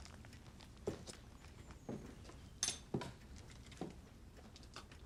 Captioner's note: footsteps